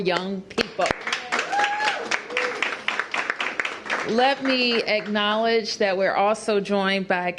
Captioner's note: cheers and applause